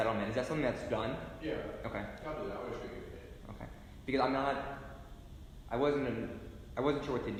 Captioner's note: breathes